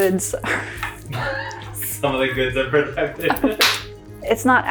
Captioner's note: chuckle